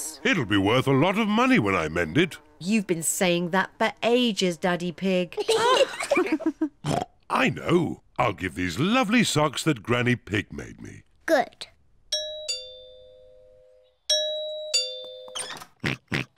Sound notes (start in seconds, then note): 5.3 kids and mummy pig laugh; 6.8 oinks; 12.1 doorbell rings; 15.8 oinks